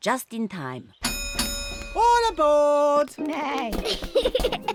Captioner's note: dings bell